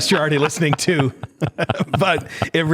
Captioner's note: laughter